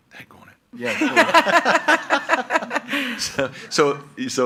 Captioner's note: everyone laughs